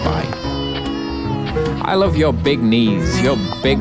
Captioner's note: child crying